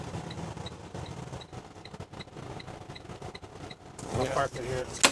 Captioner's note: truck engine